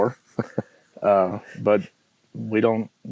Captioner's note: laughing